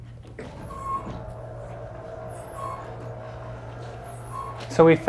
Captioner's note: equipment creaking